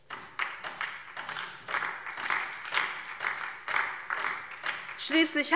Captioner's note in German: Beifall DIE LINKE